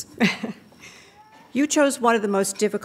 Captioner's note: laughing